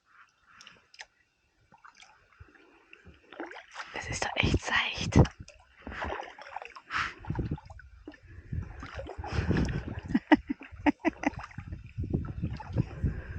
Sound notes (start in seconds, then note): 7.6 paddling sound; 10.1 laughing